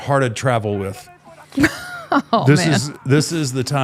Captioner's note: laughing